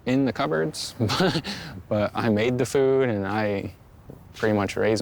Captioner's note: chuckles